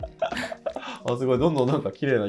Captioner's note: laughing